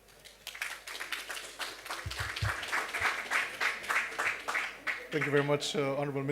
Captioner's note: applause